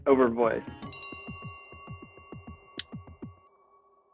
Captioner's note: bell chimes